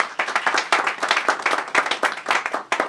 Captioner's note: applause